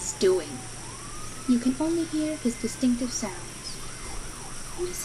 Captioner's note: Ian's sounds and the crickets and cicidas continue